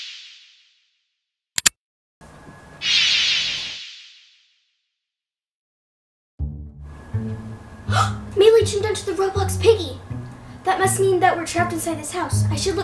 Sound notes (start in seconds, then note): 7.9 gasp